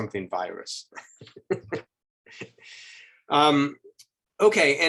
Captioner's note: chuckles